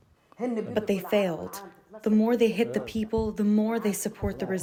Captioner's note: through translator